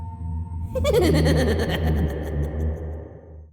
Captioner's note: laughing